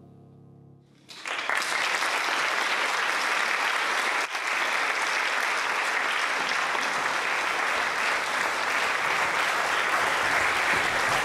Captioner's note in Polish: oklaski